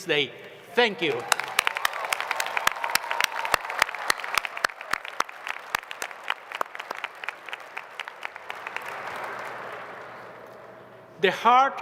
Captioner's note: applause